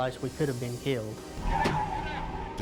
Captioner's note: tires screeching